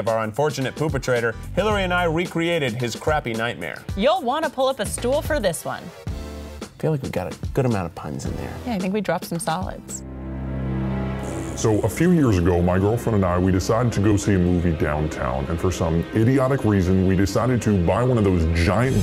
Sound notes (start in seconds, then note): 11.2 fart noise; 11.8 voiceover